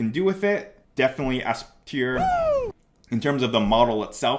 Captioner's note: man cheering